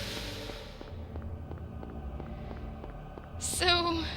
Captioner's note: really deep breath